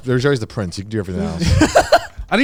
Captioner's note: laughing